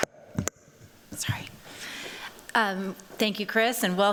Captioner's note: whispering